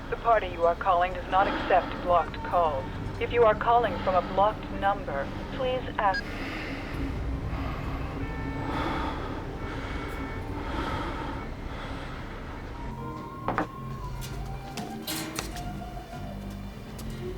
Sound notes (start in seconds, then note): 6.0 line disconnects; 8.8 man breathing